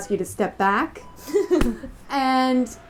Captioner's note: laughter